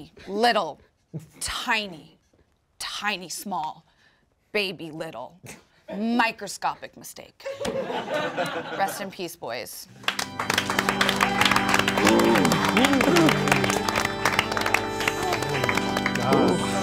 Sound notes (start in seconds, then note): 9.9 all applauding; 12.2 sad organ music